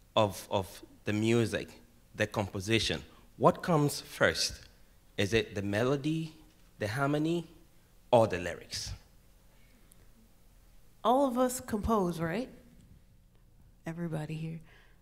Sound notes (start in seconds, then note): none